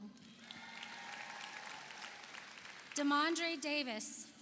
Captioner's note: audience cheers; audience applauds